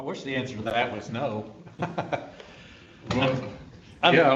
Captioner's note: laughs